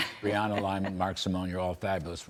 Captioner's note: laughter